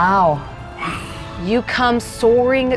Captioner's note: imitates screeching